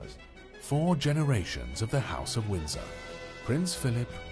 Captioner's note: voiceover